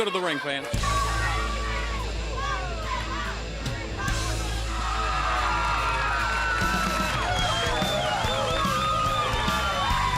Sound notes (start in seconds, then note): 5.0 crowd chatter; 6.1 crowd cheering